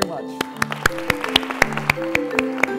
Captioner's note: applause